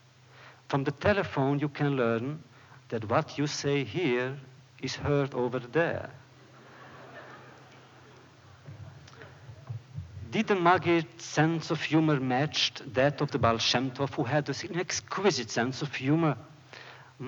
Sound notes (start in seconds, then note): 6.4 laughter